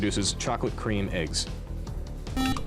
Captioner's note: beep